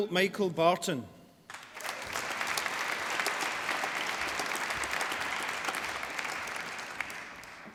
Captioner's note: applause